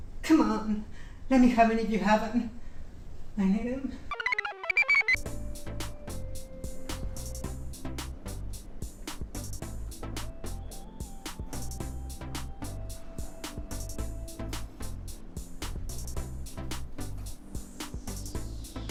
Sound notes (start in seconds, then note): 4.1 computer chirps; 4.5 blissful music